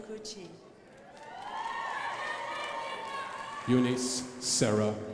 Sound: crowd applauding

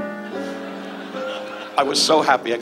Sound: audience laughs

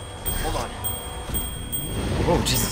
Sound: bell rings

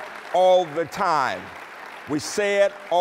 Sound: applause

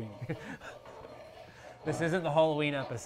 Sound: chuckles

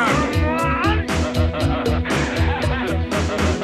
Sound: laughing

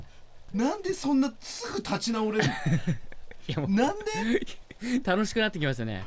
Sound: laughs

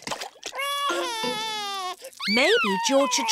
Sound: cries

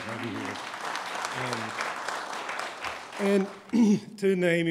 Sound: applause

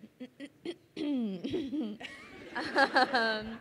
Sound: crowd laughing

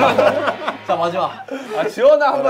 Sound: laughs

